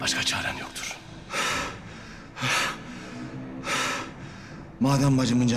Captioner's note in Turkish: Nefes sesi